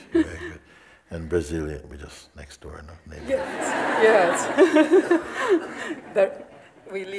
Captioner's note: smiech